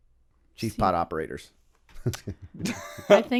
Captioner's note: chuckle